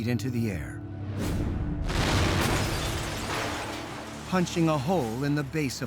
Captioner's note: loud bang